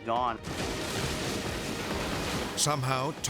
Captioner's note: wood crashing